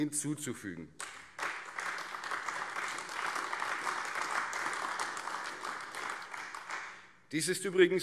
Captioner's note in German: Beifall AfD